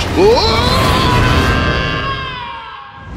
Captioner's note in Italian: urla